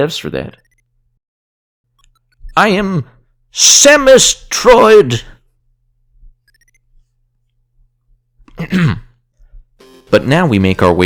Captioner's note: awkward silence